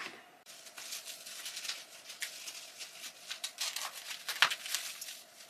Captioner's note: cling wrap crackles